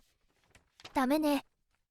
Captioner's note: shuffling